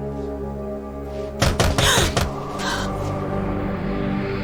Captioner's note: Knocking